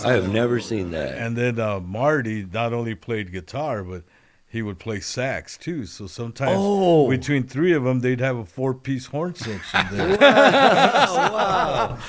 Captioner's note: laughter